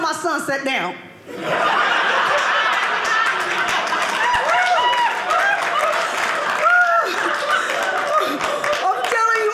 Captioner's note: audience laughing